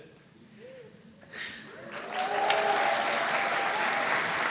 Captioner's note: audience cheering